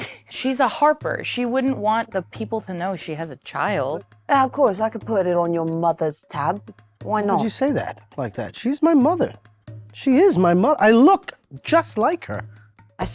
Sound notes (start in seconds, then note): none